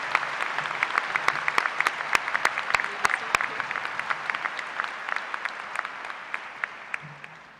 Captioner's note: applause